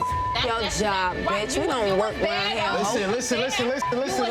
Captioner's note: beep; overlapping chattering